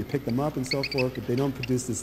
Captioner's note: chirping